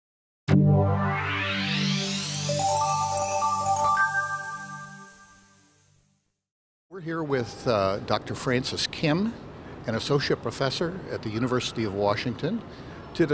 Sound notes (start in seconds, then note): 2.2 bells chiming